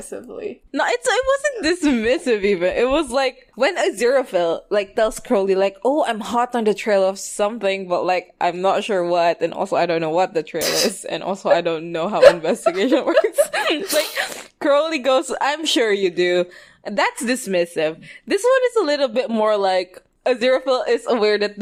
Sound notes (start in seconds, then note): 8.7 laughing; 12.2 both laugh